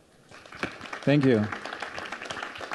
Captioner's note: audience clapping